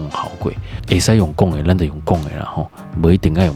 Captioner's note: taiwanese Hokkien